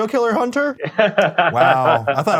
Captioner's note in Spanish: risas